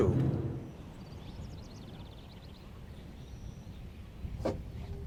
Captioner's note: birds chirping